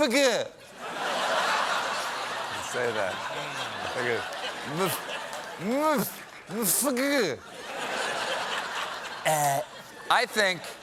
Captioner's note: laughter